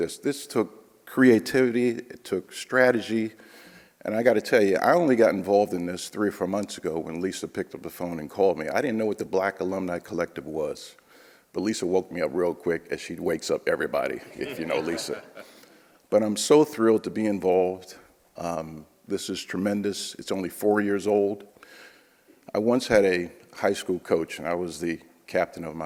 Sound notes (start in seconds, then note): 14.3 audience laughs